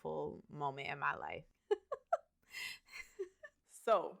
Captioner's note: laughs